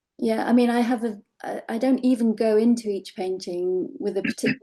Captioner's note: clearing throat